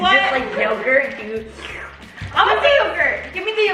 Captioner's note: makes slurp sound